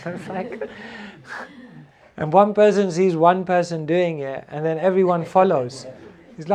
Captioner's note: laughter